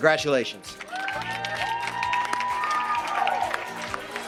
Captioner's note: audience applauding; upbeat music